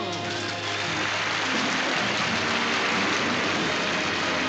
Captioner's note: applause